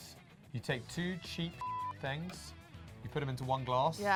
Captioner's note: beep